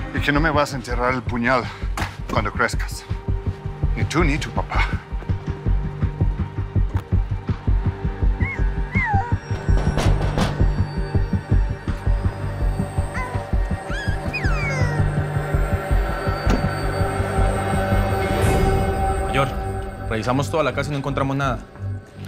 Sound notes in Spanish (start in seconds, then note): 9.6 Toques en la puerta; 13.8 Gorjeos del bebé